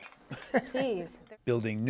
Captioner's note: laughter